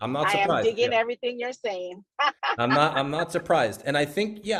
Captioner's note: laughs